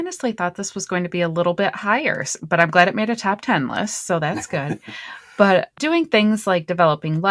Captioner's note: laughter